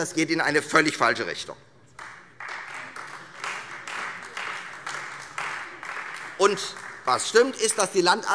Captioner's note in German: Beifall Freie Demokraten und vereinzelt AfD